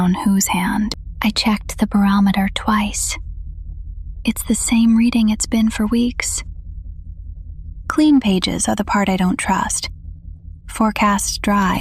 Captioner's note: whispers